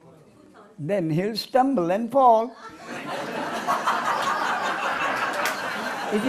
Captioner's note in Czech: smích